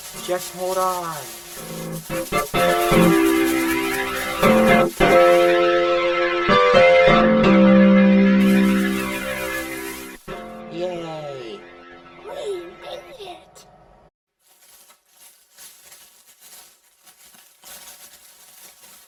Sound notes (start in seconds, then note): 14.4 cracking